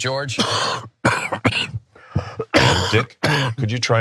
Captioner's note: cough